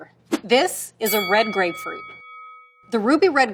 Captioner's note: bell dings